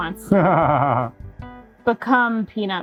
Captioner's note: laughing